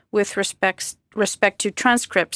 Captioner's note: speaking French